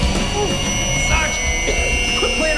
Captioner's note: gasping